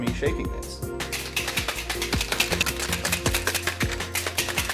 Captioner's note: liquid slapping